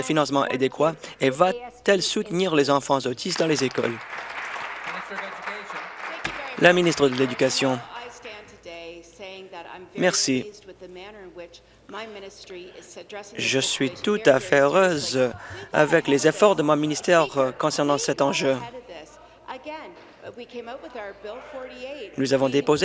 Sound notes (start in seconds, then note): 6.4 applause